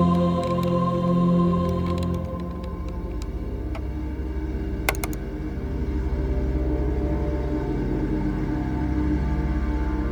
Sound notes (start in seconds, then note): 2.4 computer clicking; 7.2 ominous music